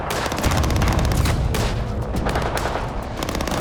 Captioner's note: gunfire